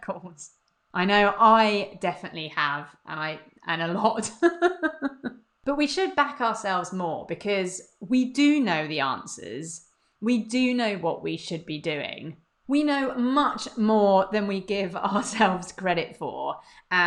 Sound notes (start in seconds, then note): 4.2 laughs